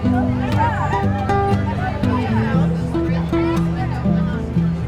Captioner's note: students chattering